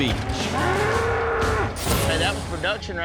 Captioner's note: bull grunting, thud